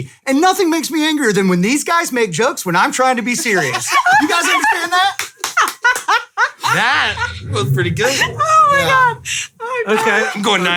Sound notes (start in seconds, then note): 3.8 laughing